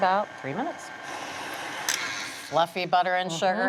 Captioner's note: mixer whirring